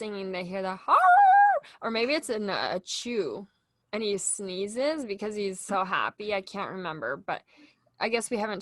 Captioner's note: howl sound